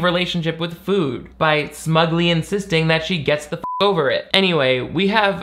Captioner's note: beep